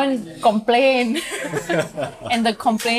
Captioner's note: laughter